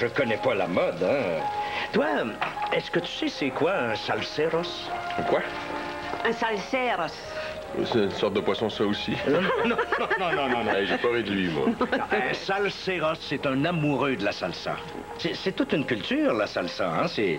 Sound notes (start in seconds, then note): 9.2 Rires